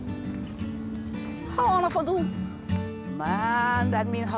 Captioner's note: speaking Gullah